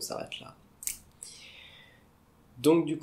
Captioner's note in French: soupir